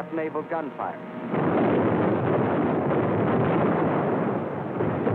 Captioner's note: explosions